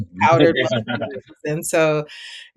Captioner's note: laughing; muffled speaking